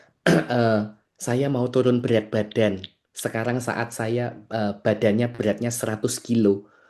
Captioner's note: berdehem